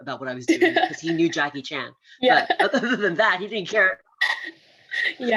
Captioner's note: laughs